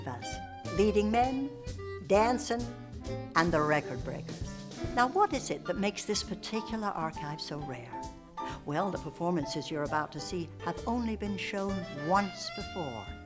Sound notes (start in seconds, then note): none